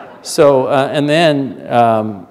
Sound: laughter

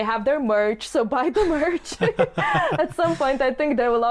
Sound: laughs

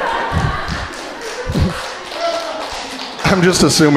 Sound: crowd laughing and applauding

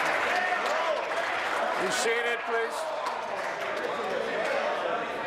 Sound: applause

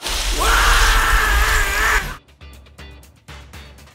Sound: speaking foreign language; screaming

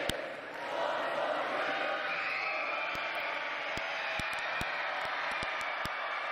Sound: crowd cheering; chanting "Four more years!"

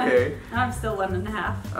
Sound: laughing

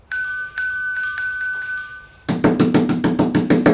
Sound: doorbell ringing; door knocking

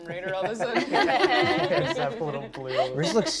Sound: all laugh

